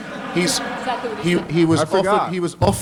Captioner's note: laughter